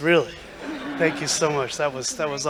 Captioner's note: laughter